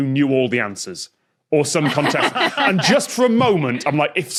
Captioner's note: laugh